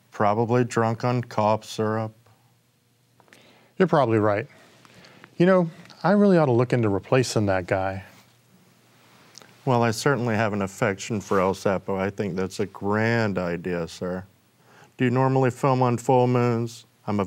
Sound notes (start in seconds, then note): none